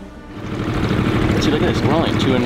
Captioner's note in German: Bootsmotor brummt